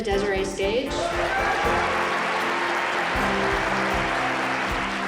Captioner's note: cheering; applause